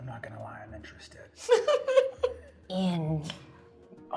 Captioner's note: laughing